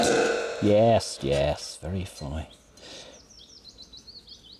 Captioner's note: loud clang